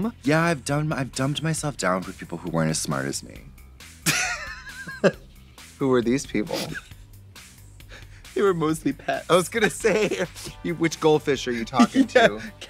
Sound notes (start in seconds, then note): 4.1 Katya hisses